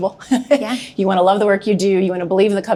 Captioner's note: laughs